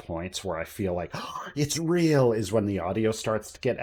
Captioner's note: gasp